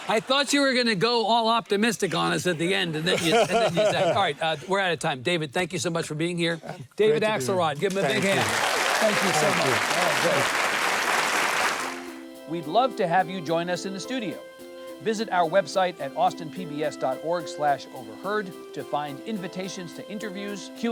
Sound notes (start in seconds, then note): 7.7 audience clapping; 11.9 light music